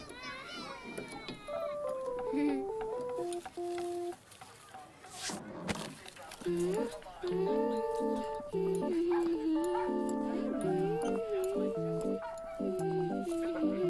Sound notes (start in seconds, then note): 0.0 child crying; 1.4 playful music; 6.5 child humming; 9.6 dog barking